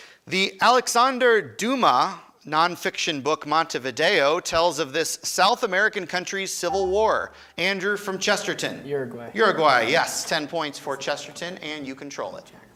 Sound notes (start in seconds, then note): 6.7 buzzer chimes